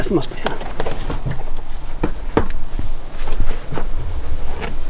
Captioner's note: liner rustles